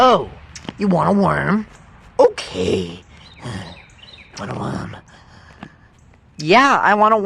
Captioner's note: breathy mutter